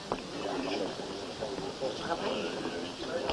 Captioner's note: general chatter